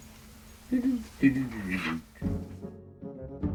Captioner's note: humming; dramatic music